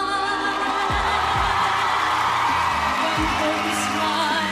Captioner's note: crowd cheering